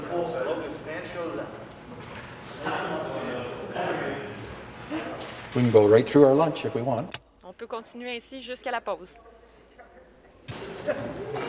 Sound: chatter

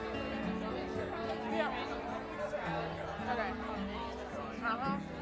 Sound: crowd conversing

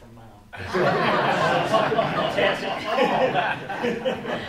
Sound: laughing

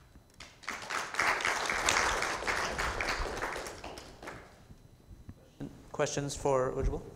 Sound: audience applause

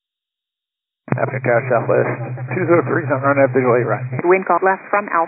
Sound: interfering signals

